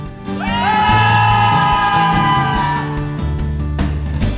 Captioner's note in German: Jubel